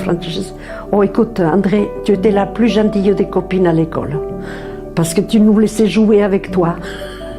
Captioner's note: speaks in french